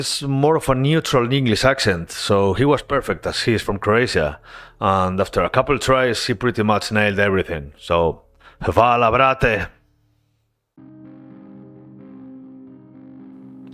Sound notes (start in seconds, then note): 9.9 in Croatian